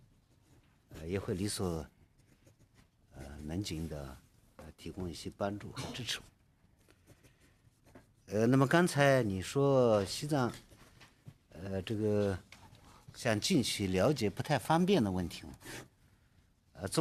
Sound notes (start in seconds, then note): 1.7 speaking Alternate Language